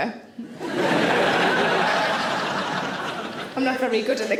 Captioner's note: audience laughing